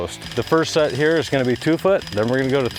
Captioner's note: jackhammer runs